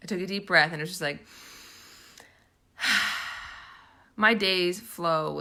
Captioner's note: heavy breathing